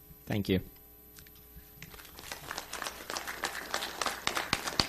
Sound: audience applauses

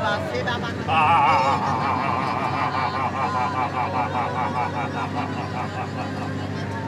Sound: very loud groans

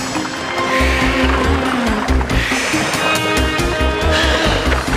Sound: grunts and groans

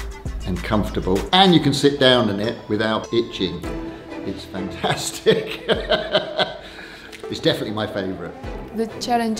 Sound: laughs

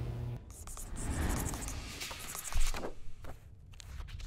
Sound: pencil scribbling

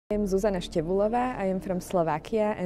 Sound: multiple women's voices

